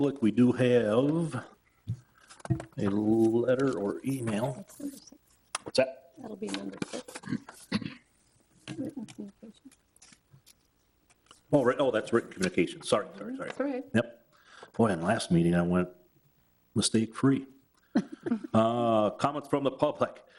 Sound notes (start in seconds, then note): 17.9 people chuckling